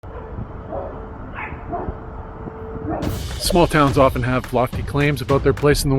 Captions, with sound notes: (dog barking) Small towns often have lofty claims about their place in the world.